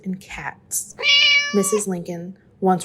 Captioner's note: cate meows